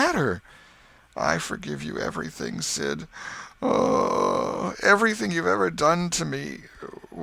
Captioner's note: groan